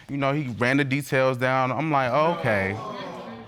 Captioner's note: audience exclaims